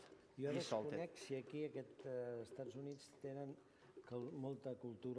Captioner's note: non-english speech